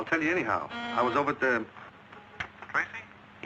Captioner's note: door buzzing